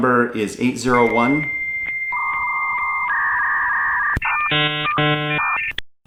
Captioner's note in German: AOL-Wählton der alten Schule für Datenschutz